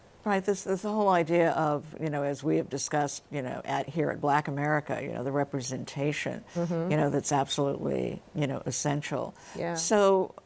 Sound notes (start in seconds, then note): none